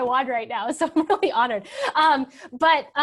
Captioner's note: laughs